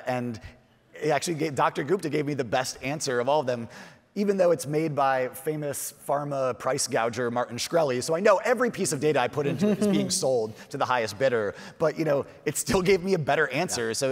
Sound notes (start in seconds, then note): 9.4 chuckles; 13.6 chuckles